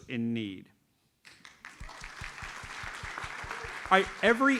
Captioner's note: audience applauds